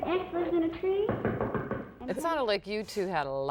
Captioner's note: knuckles rapping